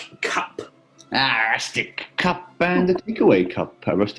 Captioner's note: grits teeth